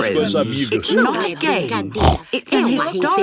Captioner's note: snorts